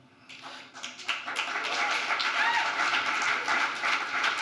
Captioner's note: applause